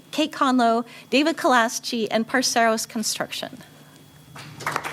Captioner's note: applause